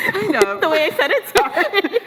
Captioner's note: laughs